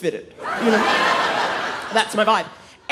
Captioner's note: audience laughing